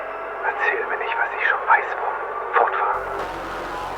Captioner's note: PROJECT RIESE CAPTAIN speaking German; portal opening